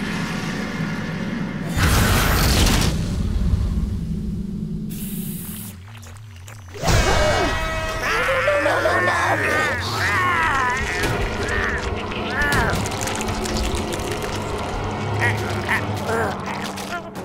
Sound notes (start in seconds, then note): 6.4 gasping; 9.6 grunting; 15.0 grunting